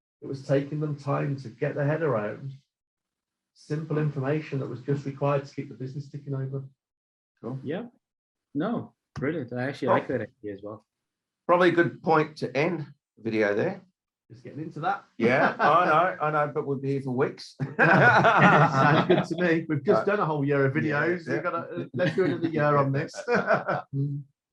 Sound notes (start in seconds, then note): 17.6 all laughing